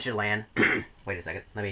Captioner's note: clears throat